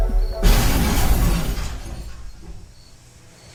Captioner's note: loud crashing downstairs